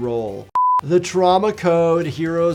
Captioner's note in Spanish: pitido electrónico